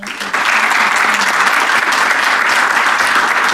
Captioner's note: applause